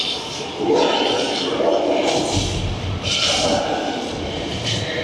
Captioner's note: dinosaurs growling continues